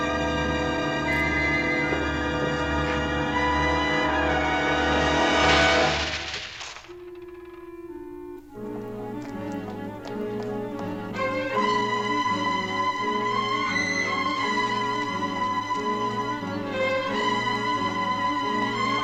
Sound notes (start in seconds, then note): 4.4 crashing; 7.9 dramatic music